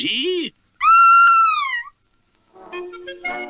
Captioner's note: Sweet Polly Purebred Screams